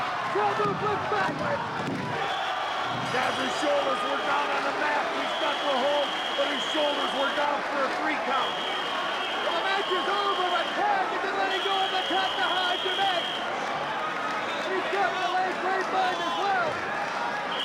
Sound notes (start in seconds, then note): 1.2 referee tapping mat; 2.3 whistling; 3.2 bell ringing